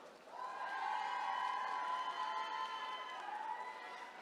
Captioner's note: attendees cheering